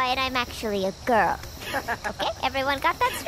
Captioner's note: laughs